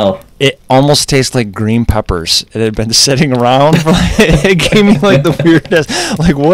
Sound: laughter

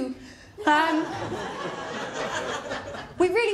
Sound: laughter

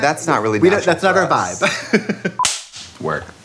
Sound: laughing

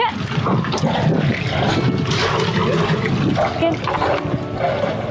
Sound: engine roaring

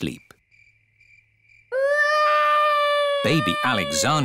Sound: baby alexander crying

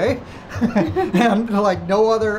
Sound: chuckling

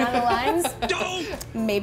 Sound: laughing

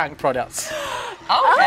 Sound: gasps

